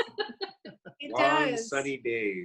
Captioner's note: chuckles